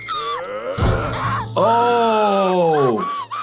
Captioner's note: Petunia screaming; Flippy grunting; grill sizzling; Petunia screaming